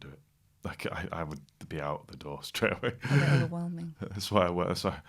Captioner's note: laughter and gasps